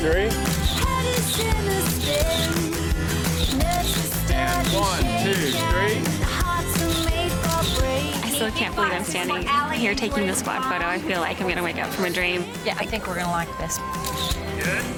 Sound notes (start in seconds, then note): 0.9 camera flashing; 3.1 upbeat music; 6.5 upbeat music